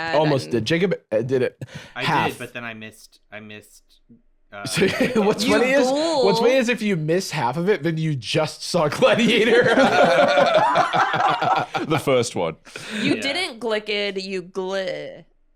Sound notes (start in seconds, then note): 8.9 all laughing